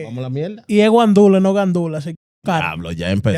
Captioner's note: speaking Spanish